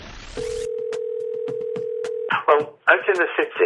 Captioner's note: phone ringing